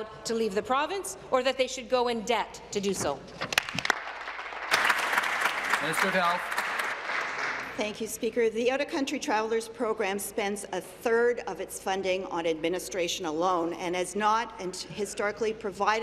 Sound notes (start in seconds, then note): 6.3 applause